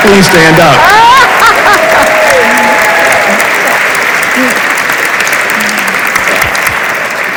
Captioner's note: audience applauds; laughs